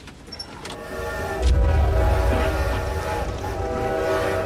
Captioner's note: train whistle blares